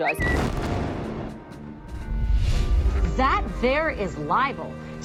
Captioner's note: explosion booming